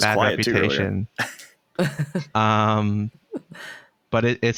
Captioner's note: laughter